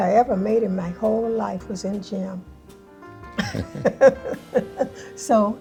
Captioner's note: laughs